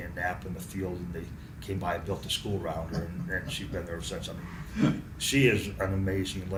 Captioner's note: laughs